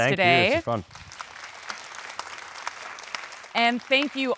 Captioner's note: audience applauding